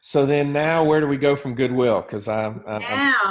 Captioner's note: murmurs